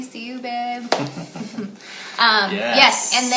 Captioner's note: both laughing